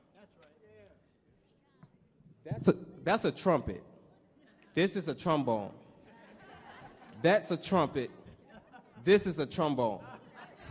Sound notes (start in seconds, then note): 6.0 audience laughs